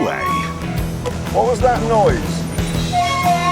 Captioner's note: metal squealing; squealing